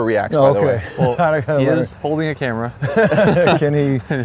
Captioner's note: laughs